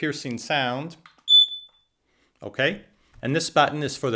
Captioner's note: alarm beeps